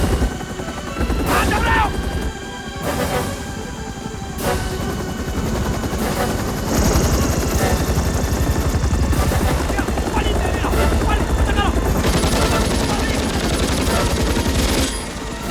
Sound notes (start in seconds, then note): 0.7 Shouting In Korean; 9.3 Korean; 11.6 machine Guns Firing; 11.6 shouting Continues